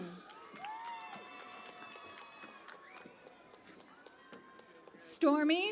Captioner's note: cheering and Applause